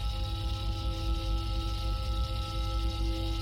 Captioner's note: none